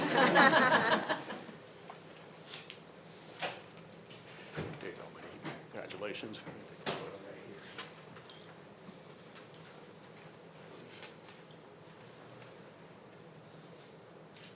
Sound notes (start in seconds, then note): 0.0 board members laughing; 6.8 speaks faintly